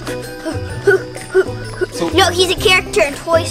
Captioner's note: imitates heavy breathing